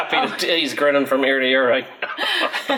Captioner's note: laughs